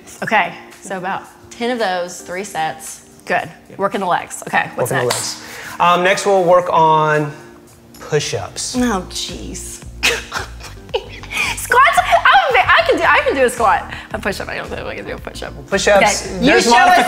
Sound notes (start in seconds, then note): 10.0 laughs